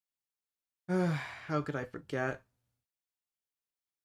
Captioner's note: sigh